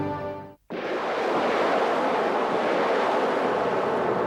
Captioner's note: rocket roars